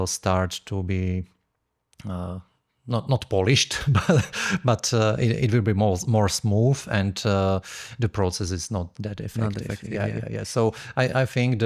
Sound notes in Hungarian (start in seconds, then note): 3.7 nevetés